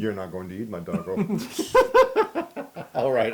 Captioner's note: laugh